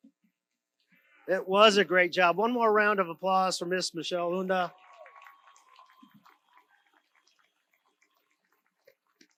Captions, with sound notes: - It was a great job. One more round of applause for Ms. Michelle Unda. (audience applauds)